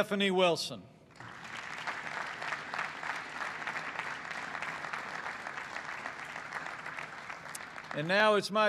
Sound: applause

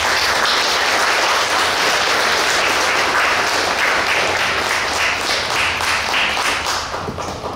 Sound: clapping

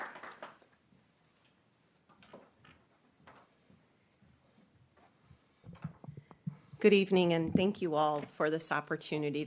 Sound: clapping

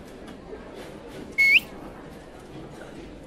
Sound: whistle Sound

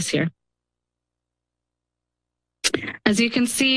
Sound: pause

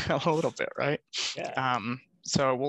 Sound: laughs

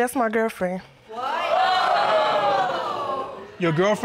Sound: audience exclaims

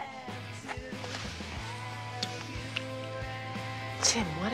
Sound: lips smacking

